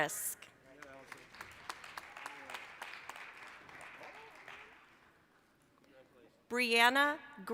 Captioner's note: applause